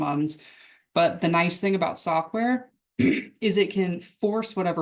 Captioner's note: clears throat